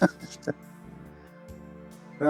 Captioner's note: laughs